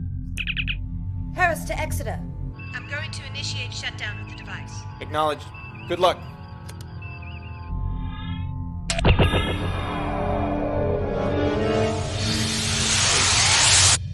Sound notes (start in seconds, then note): 0.4 communicator beeps; 2.5 comm voice; 8.8 button click